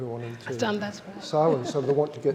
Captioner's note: chuckles